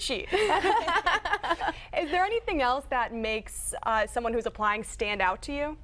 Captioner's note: laughter